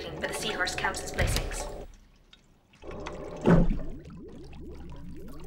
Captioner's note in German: Tür geht auf